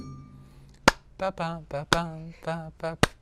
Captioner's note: clapping and sounding rhythm